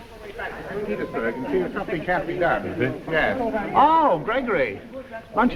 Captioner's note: crowd chattering